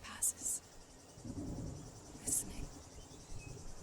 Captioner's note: thunder